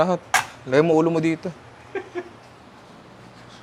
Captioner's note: chuckles